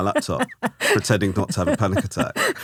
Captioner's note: laughing